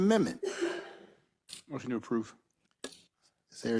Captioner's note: cough